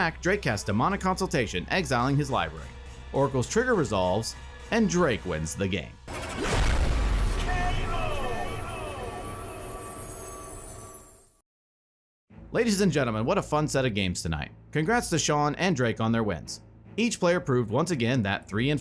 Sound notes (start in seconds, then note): 6.1 object crashing; 8.3 voiceover